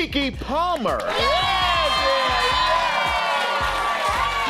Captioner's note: audience cheers